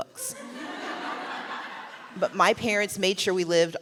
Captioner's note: laughter